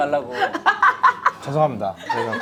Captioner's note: laughing